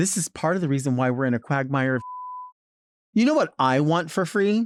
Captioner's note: beep